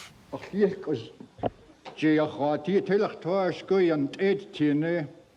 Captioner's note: speaking in Lingít